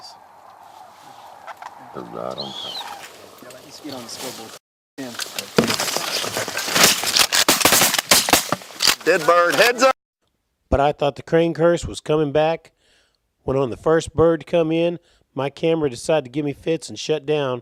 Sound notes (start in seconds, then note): 7.4 gun shots